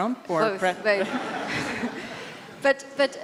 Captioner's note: laugh